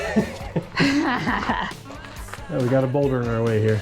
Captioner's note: pair laughs